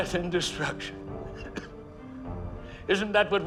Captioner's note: coughs